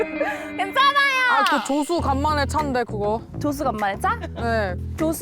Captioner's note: middle school science sound effect